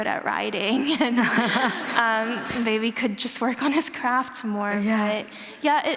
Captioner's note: laughter